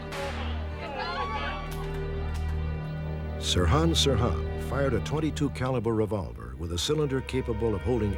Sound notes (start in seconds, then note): 1.7 empty gun clicking